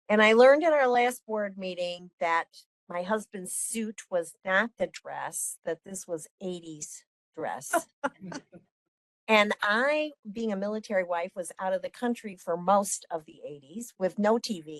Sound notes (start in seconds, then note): 7.7 laughing